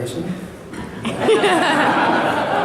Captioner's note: laughter